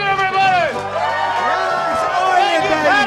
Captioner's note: cheers and applause